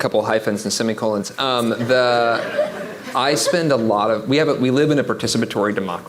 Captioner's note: audience laughing